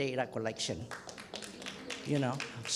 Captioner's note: clapping